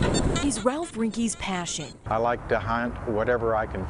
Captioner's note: NAT: beeping